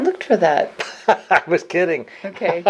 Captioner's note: laughs